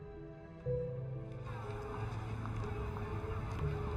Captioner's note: crowd talking